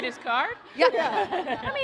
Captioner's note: laughter